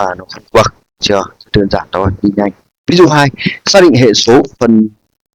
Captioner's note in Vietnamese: hắng giọng